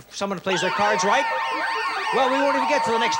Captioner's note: alarm sounds